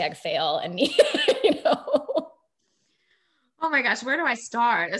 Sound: laughing

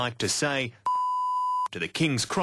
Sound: beep

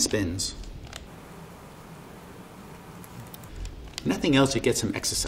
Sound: air hissing

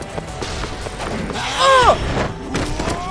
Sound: grunts/exclaims

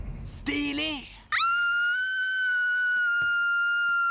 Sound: lindsay screaming

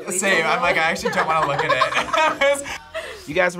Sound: both laugh

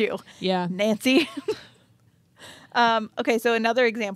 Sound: chuckles

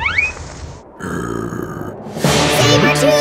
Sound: growling

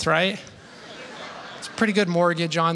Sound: laughter

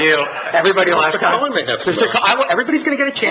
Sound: laughs

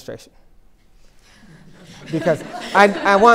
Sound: laughter

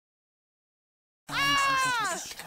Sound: Aika scream

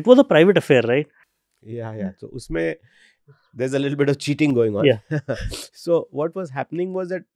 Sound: chuckles

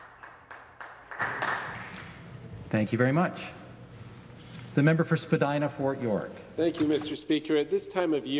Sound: applause

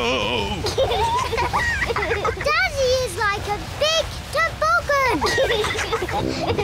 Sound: both giggle

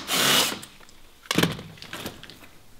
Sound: battery-powered drill; clatters

